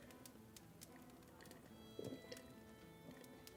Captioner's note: gulping